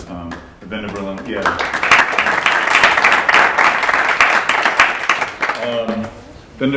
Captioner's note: applause